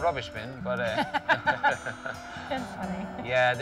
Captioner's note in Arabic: يضحك